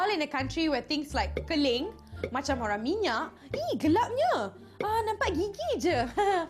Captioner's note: speaks in foreign language